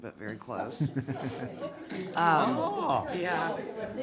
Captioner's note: group chuckling